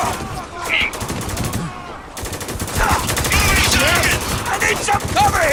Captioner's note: guns firing; characters moaning